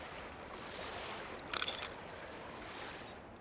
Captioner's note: shutter clicks